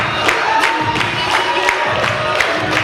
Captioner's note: audience cheers